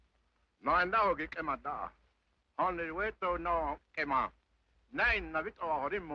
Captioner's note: warrior speaking foreign language